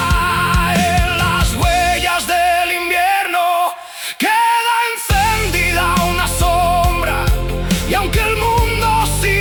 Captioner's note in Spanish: grito